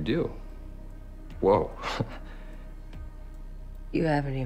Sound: chuckles

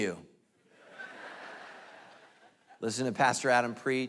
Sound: congregation laughing

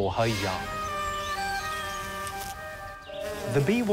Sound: buzzing

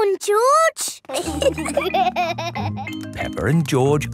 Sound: laughter

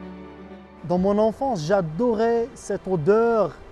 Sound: speaking french

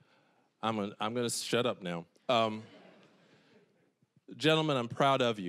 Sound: audience chuckling

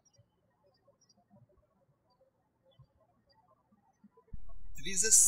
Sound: birds chirping

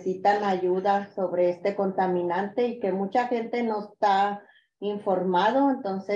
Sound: continues speaking in Spanish

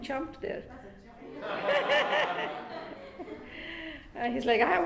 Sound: class laughing

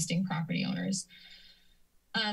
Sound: inhales

